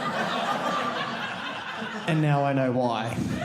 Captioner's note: audience laughing